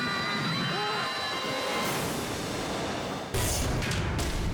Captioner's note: tourist screams; woman screams; dramatic music